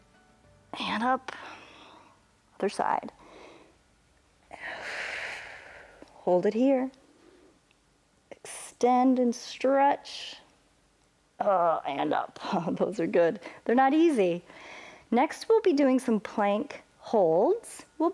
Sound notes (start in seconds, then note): 4.5 exhales